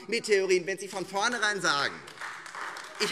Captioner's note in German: Beifall Freie Demokraten und AfD